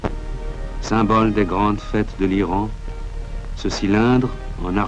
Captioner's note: French spoken audio